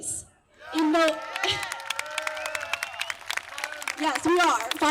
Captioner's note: applause, cheers